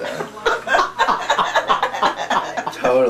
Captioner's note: laughing